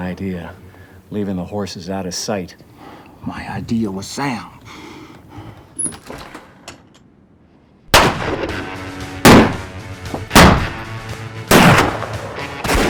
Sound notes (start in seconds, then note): 4.5 gunfire